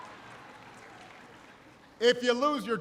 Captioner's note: applause